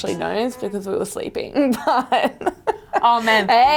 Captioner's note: laughing